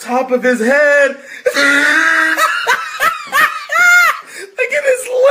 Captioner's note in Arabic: يضحك